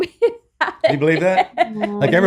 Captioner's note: laughing